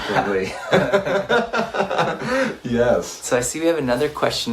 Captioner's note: laughs